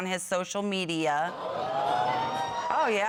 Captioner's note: audience exclaiming